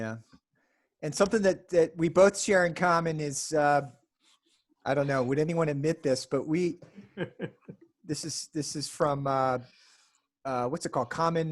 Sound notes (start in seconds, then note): 6.9 laughs